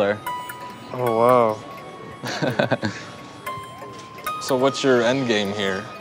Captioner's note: giggles